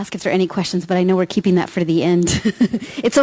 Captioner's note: laughs